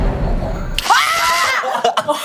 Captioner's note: electricity